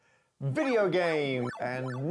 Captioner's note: beeping